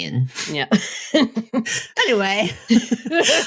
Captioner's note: chuckles